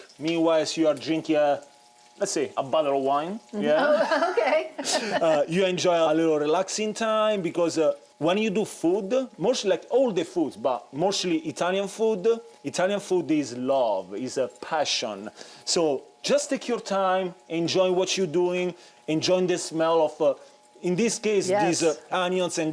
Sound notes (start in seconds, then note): 3.6 laughs